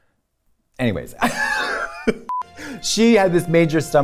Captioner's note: beeping